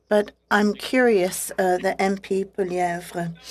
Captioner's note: speaking French